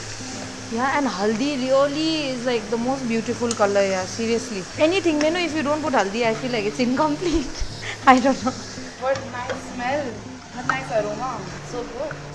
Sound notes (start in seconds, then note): 7.1 laughs